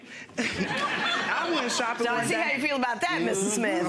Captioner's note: audience laughing